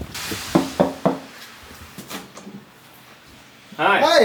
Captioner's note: knocking